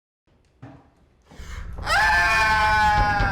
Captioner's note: screaming